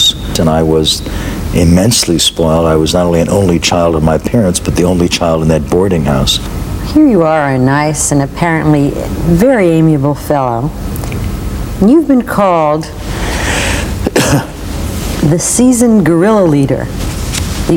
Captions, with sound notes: and I was immensely spoiled. I was not only an only child of my parents, but the only child in that boarding house. - Here you are, a nice and apparently very amiable fellow. And you've been called, (cough) the seasoned guerilla leader.